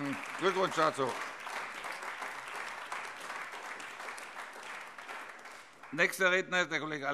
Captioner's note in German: Beifall AfD